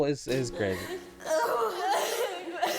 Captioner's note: non-english speech